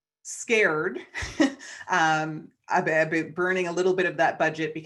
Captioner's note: chuckles